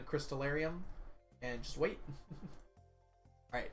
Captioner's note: chuckles